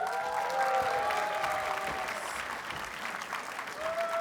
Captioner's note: audience cheers and applauds